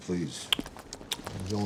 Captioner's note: slurp slurp slurp!